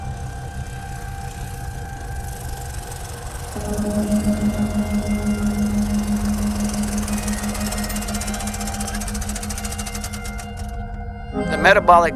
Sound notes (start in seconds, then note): 0.0 dramatic music playing; 2.7 ATV approaching